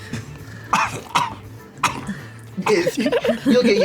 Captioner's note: coughs